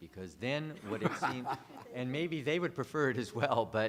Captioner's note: laughter